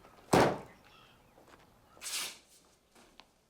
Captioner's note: door bangs